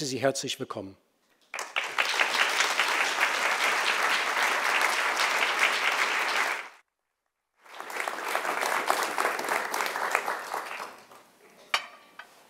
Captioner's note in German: Applaus